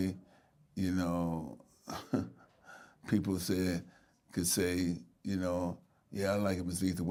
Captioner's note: chuckling